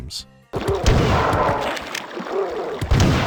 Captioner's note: POW-kr-krk